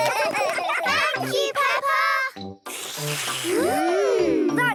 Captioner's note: all slurping